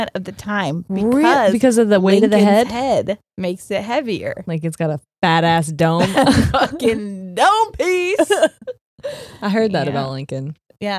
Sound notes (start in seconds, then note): 6.0 both laughing